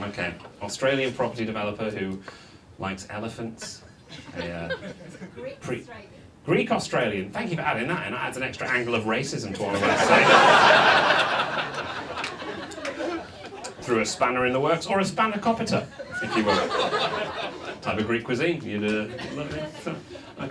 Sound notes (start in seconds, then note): 9.6 audience laughs